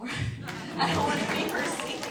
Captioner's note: applause